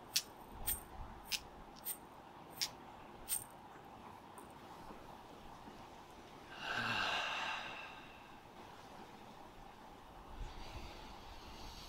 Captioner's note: deep breaths